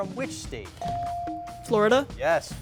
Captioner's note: bell chiming